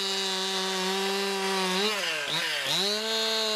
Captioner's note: chain saw noise